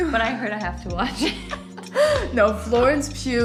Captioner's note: both laughing